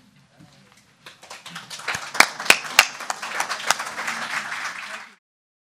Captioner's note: audience clapping